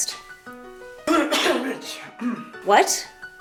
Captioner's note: cough muffles a curse